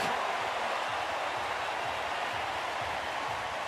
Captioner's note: cheering